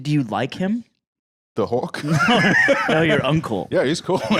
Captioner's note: laughs